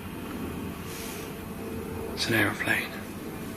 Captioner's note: aeroplane flying